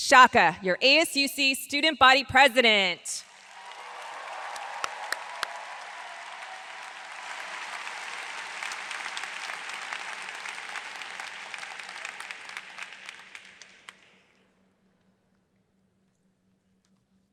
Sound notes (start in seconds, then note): 3.4 audience applauds